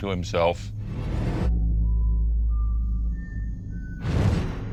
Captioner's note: whistling